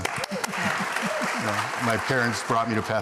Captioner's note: applause